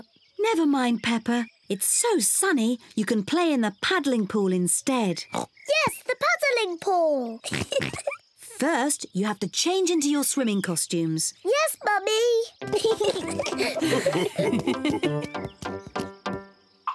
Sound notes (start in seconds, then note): 5.3 oinks; 7.4 giggles; 12.6 mummy pig and daddy pig chuckle; 12.6 both giggle excitedly